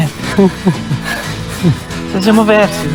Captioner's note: laughter